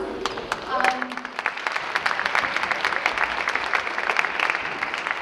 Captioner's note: audience clapping